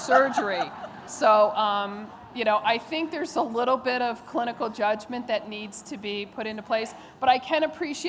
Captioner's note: laughter